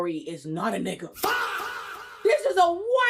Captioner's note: screaming